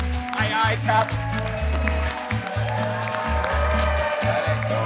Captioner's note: audience cheering